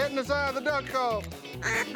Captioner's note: duck calls